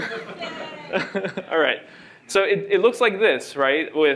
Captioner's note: laughter